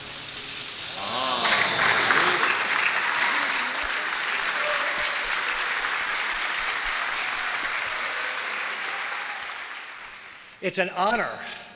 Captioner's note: crowd applauds